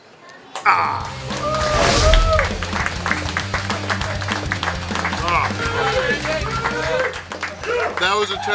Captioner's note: cheering & Clapping